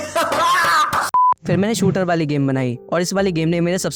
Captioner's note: laughter; beep